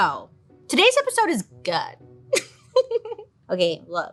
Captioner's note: giggles